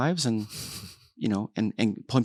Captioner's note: laughs